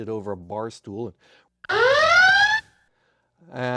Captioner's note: klaxon